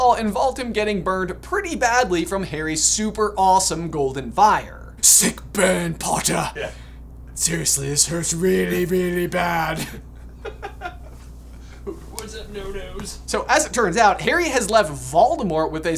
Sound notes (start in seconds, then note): 9.5 laughing